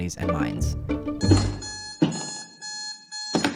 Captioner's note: alarm beeping; hitting